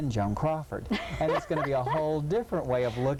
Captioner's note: laughing